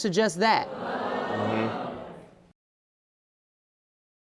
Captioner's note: audience gasping